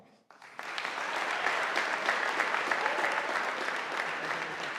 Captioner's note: audience applauding